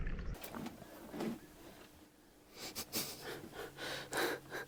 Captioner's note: laughing